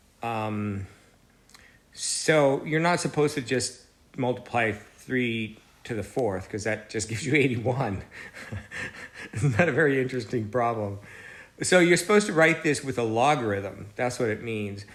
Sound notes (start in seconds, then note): 8.1 laugh